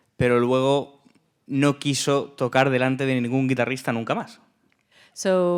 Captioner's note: speaking in Spanish